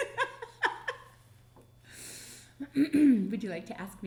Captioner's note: laughing